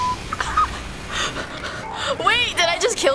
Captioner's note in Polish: cichy śmiech